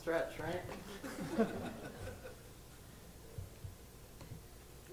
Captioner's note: audience laughs